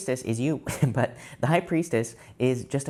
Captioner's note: tarot reader laughs